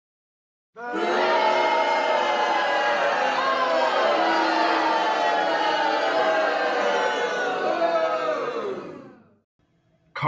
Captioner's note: audience booing